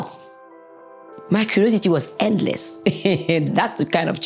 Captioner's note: laughing